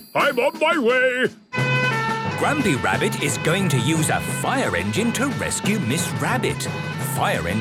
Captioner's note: sirens